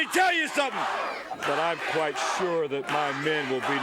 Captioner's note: crowd chants "Rock 'n' Roll"